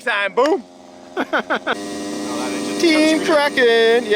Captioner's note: laughing